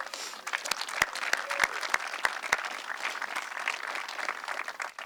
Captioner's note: audience clapping